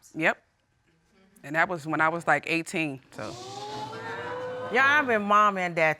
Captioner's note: audience gasps